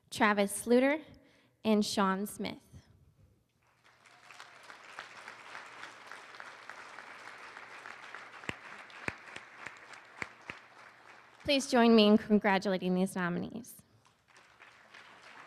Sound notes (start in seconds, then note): 3.6 applause; 13.9 applause